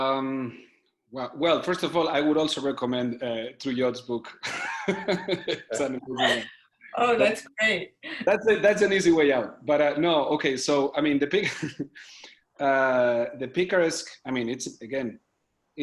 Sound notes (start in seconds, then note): 4.5 laughs; 12.0 laughs